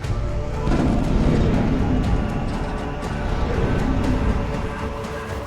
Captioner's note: sun flare whooshing